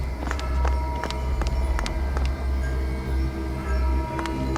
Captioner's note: suspenseful music; bells ringing